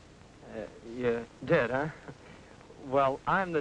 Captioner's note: chuckles